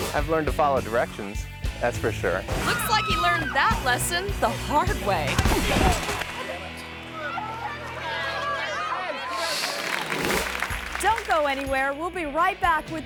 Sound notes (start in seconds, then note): 5.3 thuds; 6.1 people chattering; 9.3 audience clapping